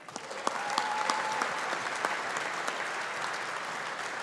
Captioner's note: audience applauding